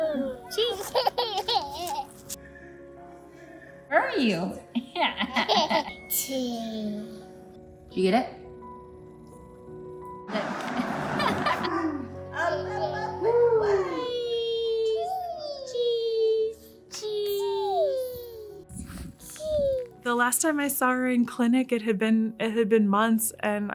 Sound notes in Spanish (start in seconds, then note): 10.4 ruido del tráfico, adulto haciendo sonidos juguetones, bebé imitando alegremente